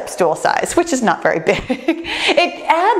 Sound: laughs

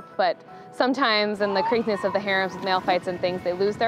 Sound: seals barking

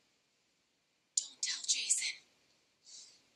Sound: whispers

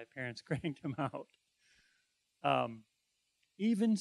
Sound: laughing

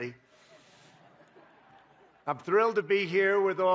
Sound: laughter

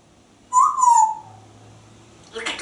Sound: whistling

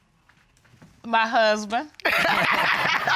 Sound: laughs

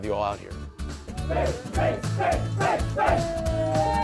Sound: cheering

